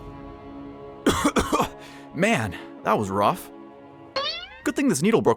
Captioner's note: cough